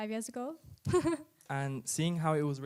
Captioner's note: chuckles